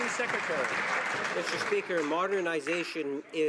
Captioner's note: some Applause